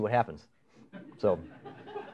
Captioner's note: laughter